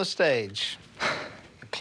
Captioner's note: sighs